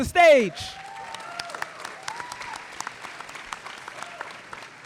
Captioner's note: audience applauding